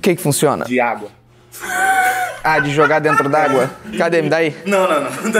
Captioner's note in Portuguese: risadas